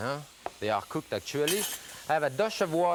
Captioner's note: casserole clanks